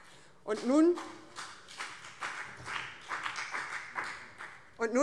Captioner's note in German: Beifall BÜNDNIS 90/DIE GRÜNEN